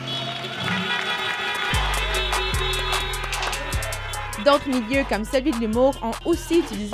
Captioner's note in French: klaxons